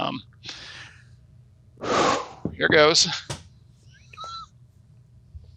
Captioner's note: deep breath